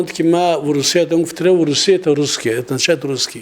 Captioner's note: Russian